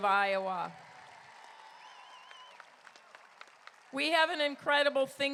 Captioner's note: crowd cheering